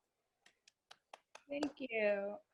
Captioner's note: claps